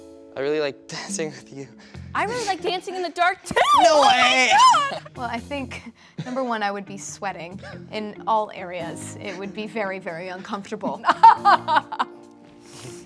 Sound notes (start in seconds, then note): 10.9 fake laughter